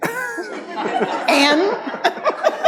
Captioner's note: audience laughs